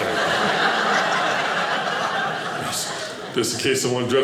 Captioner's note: audience laughing